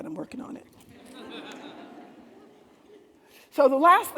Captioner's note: attendees laughing